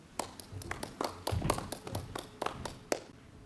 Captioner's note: clapping